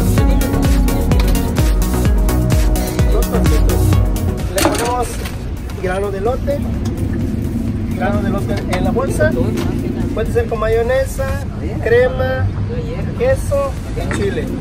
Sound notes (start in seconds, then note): 3.3 talking, street noise